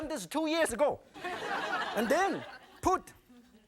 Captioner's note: audience laughing